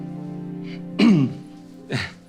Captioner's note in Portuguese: limpa a garganta